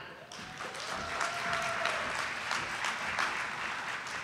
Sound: audience applauding

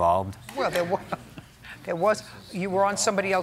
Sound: laughs

